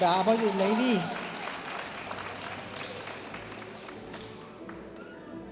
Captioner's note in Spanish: aplausos de la audiencia